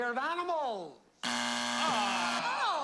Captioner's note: buzzer